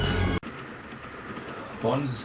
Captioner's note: train noise